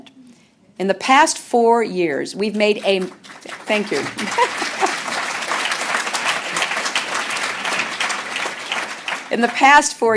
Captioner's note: applause